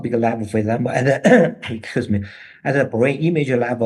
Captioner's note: he coughs